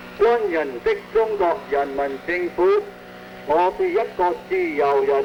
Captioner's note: speaking foreign language